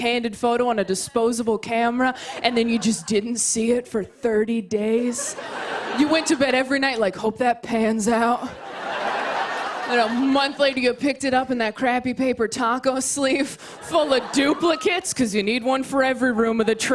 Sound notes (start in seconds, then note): 5.0 laughter; 8.5 laughter